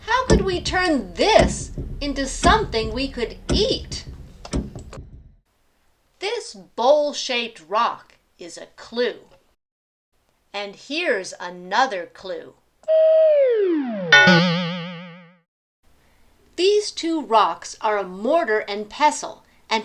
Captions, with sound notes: How could we turn this into something we could eat? This bowl-shaped rock is a clue. And here's another clue. (Boing!) These two rocks are a mortar and pestle.